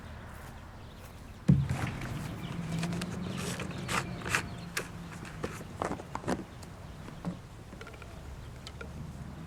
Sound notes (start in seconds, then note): 2.8 cap rattles